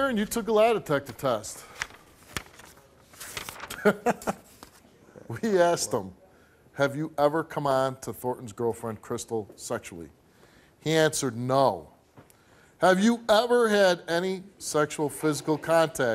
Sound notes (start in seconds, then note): 3.7 laughing